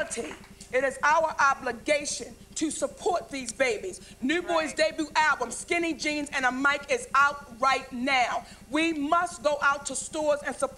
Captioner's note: applause